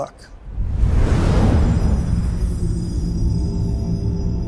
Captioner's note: dramatic sound